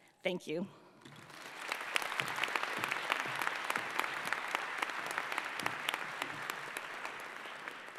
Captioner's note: applause